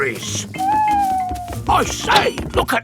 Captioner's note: owl hooting